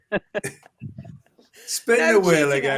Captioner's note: laughter